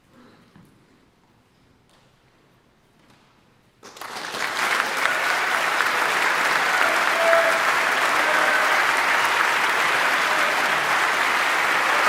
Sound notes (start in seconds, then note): 4.0 audience applauding; 6.0 audience cheering